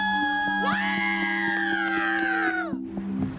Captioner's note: clapping